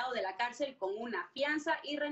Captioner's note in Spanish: habla en ingés